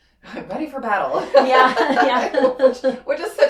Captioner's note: laughing